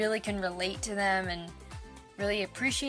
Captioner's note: none